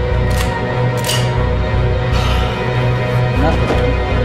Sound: gun clicking

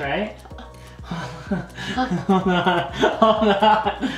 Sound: laughter

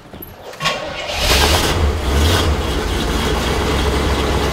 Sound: garage door opening; car engine starting

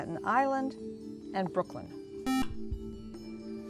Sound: buzzer

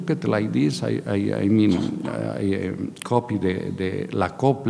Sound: speaking in a foreign language

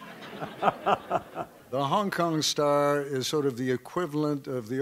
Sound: laughter

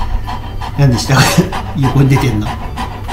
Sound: laughs

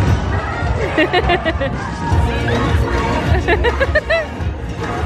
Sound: laughing

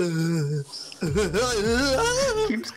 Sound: seizure sounds continue

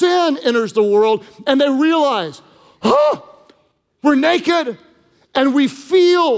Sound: gasps

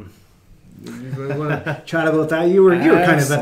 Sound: laughing

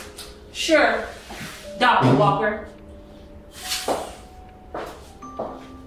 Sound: footsteps

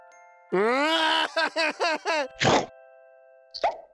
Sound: cries

